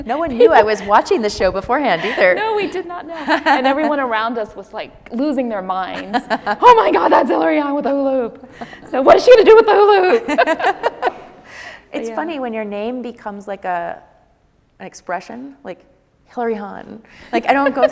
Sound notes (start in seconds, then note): 3.3 laughs; 6.0 laughing